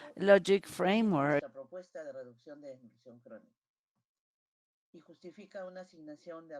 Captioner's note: in Spanish